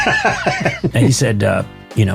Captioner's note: audience laughter